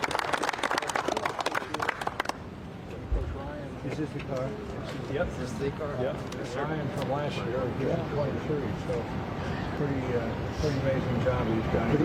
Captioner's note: applause